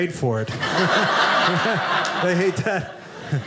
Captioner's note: audience laughing